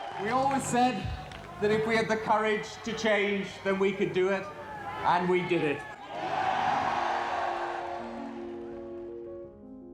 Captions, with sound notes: We always said, that if we had the courage to change, then we could do it, and we did it. (audience cheering)